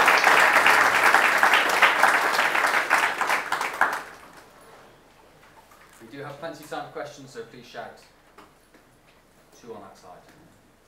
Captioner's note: applause